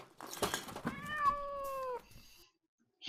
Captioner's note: cat meowing